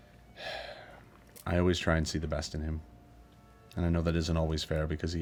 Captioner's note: sighs